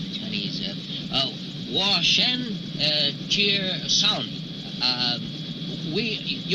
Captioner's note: speaking in foreign language